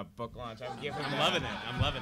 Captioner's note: audience laughing